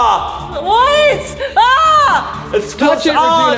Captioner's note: screams